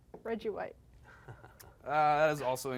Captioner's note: laughs